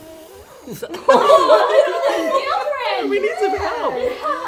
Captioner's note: people laugh